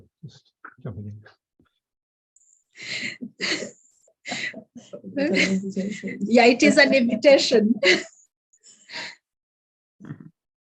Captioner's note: laughs